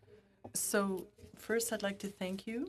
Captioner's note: speaking FRENCH